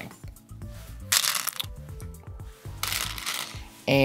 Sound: stones rattling

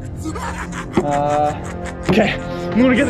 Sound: clown laughing

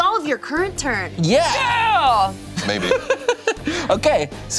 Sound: cheers

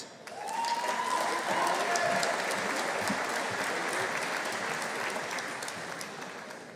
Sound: audience applauding; audience cheering

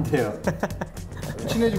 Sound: laughing

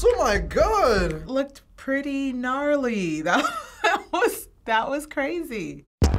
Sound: soft upbeat music; laughs; techno intro

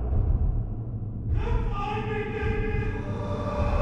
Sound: ghostly voice

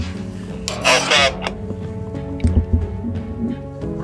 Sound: radio chatter

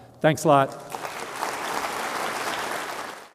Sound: applause

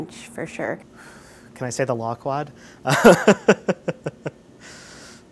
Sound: laughs

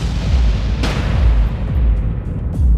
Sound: gunshot

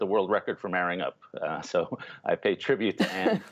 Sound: laughter

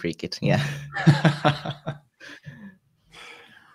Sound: all laugh

